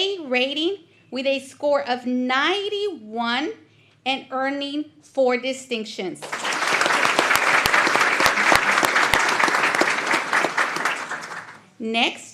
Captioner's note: applause